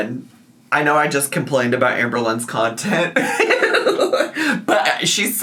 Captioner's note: laughs